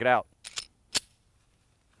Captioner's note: gun cocks